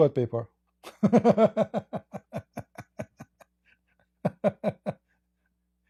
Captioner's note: Ketawa